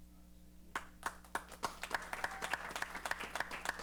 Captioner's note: applause